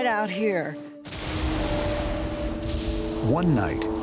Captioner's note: lightning strikes